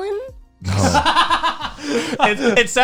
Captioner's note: guys laughing